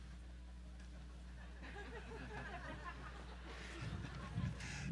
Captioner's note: audience laughing